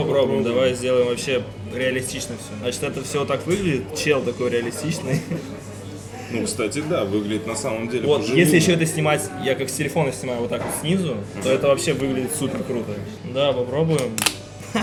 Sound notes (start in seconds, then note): 5.0 laughs